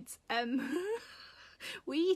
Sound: Sarah laughing

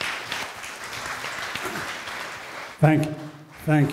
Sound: audience applause

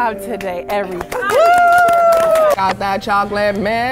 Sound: crowd applauding

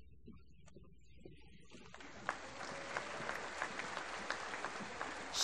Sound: applause

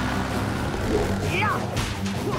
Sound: grunting

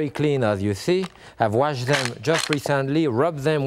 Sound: mussels clatter

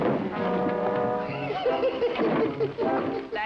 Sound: laughs

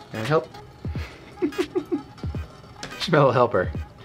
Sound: chuckles

